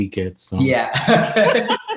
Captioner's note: laughs